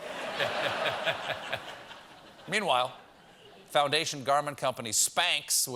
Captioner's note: laughter